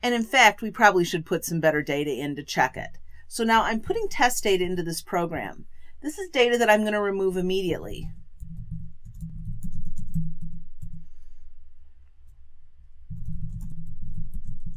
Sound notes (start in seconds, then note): 9.0 typing